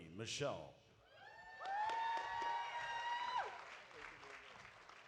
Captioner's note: audience cheering